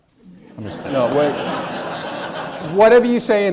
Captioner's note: audience laughing